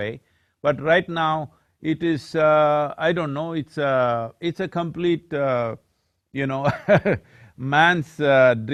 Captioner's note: laughs